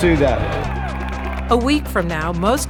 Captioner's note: applause